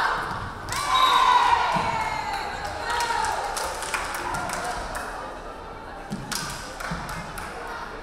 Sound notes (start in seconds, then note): 0.6 crowd cheering; 0.8 referee whistling